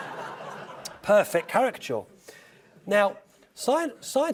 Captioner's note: laugh